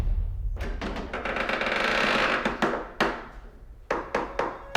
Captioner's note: door creaking